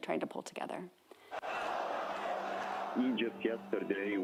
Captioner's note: people chanting and shouting